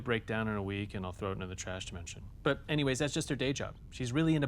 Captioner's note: none